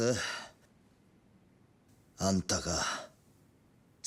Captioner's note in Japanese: ため息